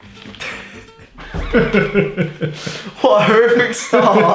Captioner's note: laughing